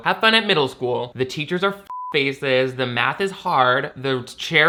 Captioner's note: beep